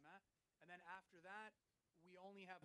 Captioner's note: speaking French